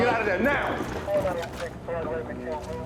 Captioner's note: voice over the radio